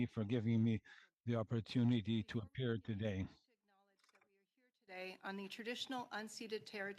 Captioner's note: speaking French